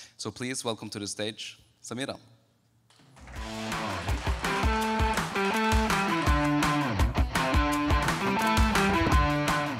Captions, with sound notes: So please welcome to the stage, Samira. (audience clapping) (guitar music)